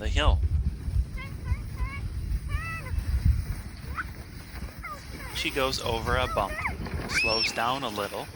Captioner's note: screams